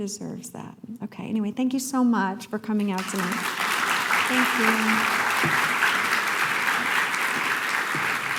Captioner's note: applause